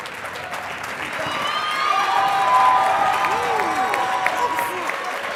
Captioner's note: crowd cheers; crowd cheering wildly